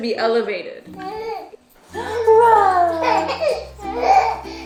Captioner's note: baby cooing; baby laughing